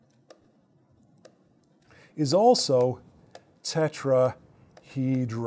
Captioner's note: stylus tapping against screen